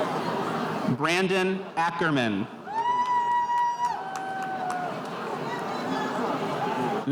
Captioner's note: spectators cheering